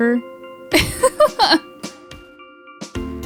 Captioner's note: laughs